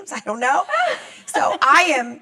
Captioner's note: laughs